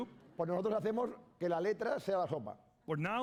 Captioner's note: speaking spanish